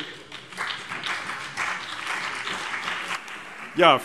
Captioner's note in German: Beifall CDU und BÜNDNIS 90/DIE GRÜNEN